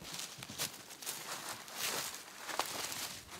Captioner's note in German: none